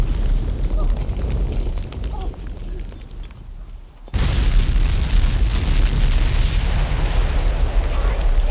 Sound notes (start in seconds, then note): 2.5 groans; 4.1 booming